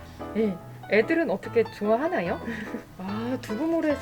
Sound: laugh

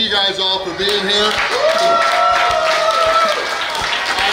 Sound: cheering & Clapping

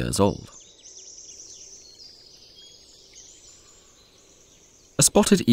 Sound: sounds of nature

